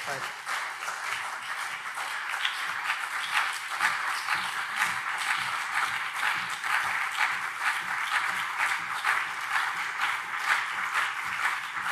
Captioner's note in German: Beifall CDU und SPD